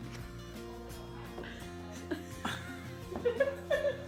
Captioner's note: laughter